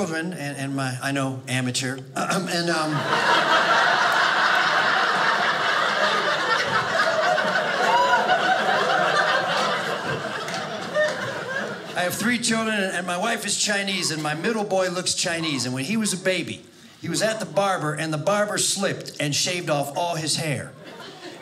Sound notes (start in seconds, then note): 2.7 audience laughing